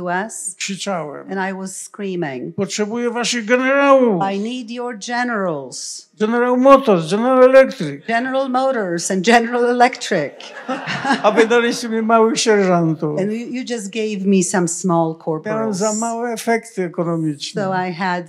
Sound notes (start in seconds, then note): 0.2 foreign language; 3.0 foreign language; 6.3 foreign language; 10.3 laughter; 11.4 foreign language; 15.4 foreign language